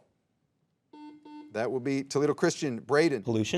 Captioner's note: soft beeping